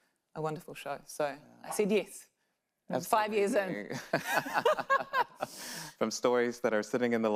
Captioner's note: laughs